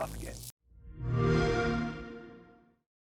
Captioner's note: xbox sound